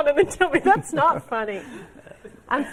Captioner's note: laughter